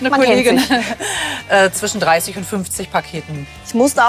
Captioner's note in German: lacht